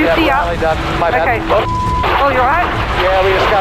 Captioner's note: beep